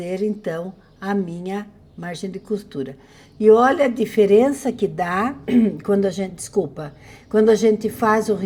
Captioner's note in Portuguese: limpando a garganta